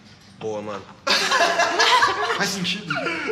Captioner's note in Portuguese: Risadas